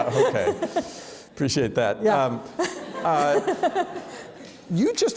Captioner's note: laughs